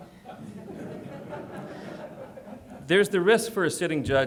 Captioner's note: audience laughs